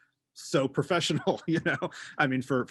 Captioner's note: laughing